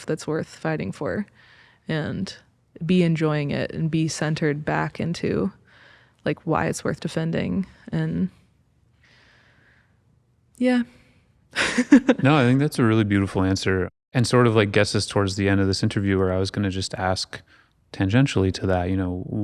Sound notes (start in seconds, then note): 11.6 laughs